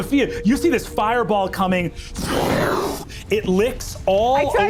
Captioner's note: imitates fire roaring